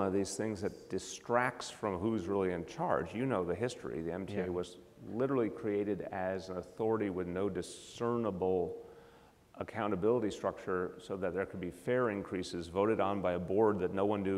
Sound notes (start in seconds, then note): none